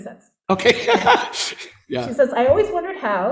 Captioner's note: laughing